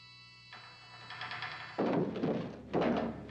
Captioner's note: metal çıngırak